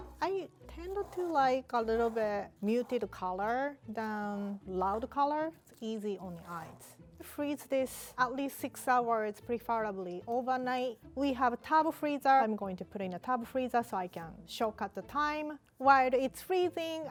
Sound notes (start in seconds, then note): none